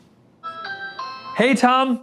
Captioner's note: doorbell ringing